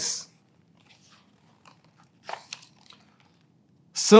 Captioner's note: pages rustling